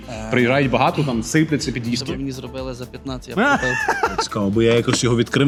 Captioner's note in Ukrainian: сміх